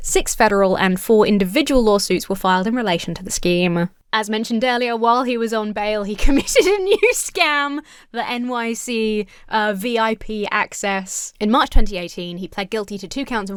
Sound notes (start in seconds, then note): 6.2 laughs